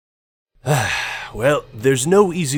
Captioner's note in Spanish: Suspiro